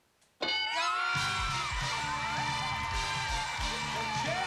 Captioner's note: cheers and applause